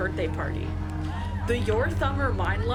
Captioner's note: kids cheering